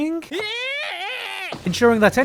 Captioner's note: Asta screams in bewilderment